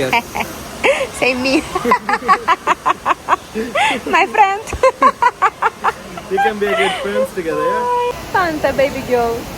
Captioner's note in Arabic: تضحك